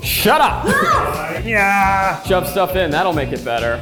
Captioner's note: exclaims